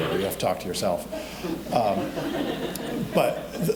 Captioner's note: audience laughing